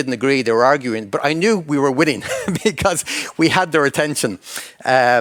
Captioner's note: chuckles